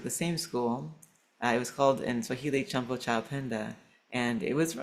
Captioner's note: speaking swahili